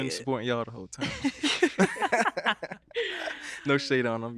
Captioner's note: laughing